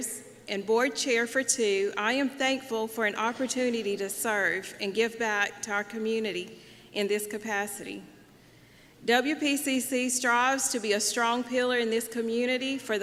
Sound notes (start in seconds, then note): none